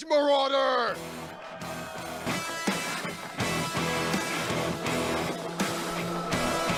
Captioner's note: crowd cheering; rock music